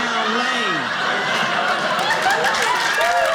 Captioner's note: audience laughing; audience applauding